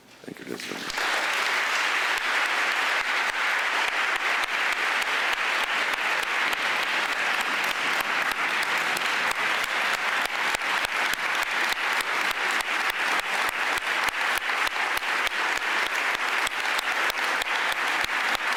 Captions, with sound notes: Thank you, ladies and gentlemen. (audience applauding)